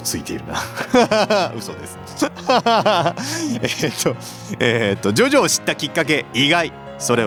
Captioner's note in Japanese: 笑い